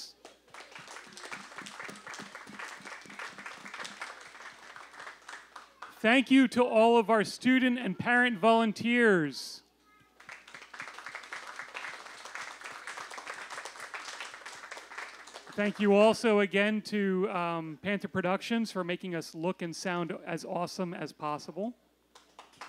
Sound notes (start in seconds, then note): 0.1 applause; 10.1 applause